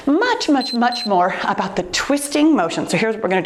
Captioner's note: timer beeps